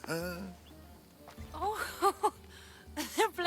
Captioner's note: laughs